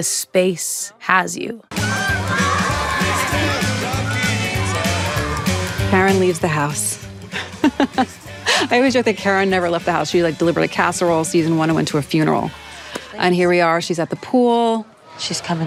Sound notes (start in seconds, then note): 1.8 children yelling; 7.2 laughs